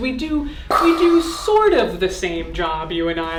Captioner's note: imitating explosion